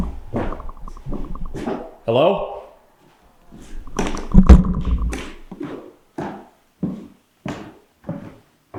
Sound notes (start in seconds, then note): 3.9 flashlight thuds